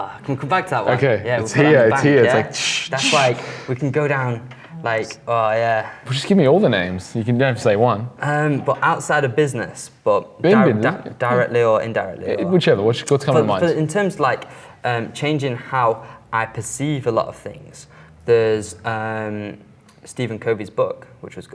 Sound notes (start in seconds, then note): 4.8 squeaks